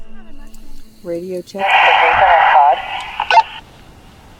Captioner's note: radio beeping; radio static